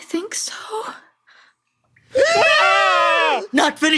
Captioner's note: gasps into life